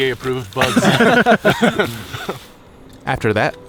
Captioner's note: all laugh